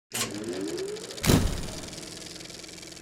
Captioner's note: metal clanking; door closes; wheels reeling